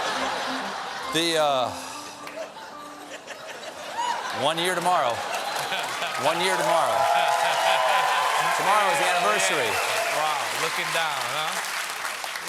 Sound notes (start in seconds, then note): 2.3 laughter; 3.9 cheers and applause